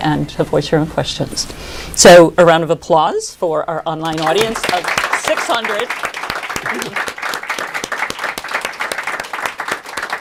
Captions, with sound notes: and to voice your questions. So round of applause for our online audience of 600. [APPLAUSE]